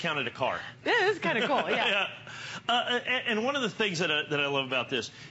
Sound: laughter

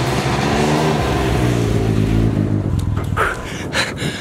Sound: motorcycle engine roaring

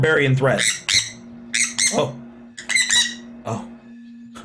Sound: beeping; beeping

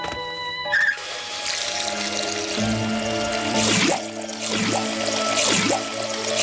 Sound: water whooshing rhythmically; water pattering

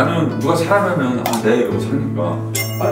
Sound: innocently

